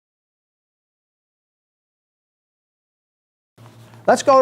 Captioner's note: silence